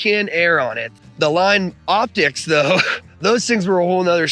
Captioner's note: chuckles